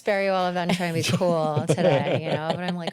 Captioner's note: laughter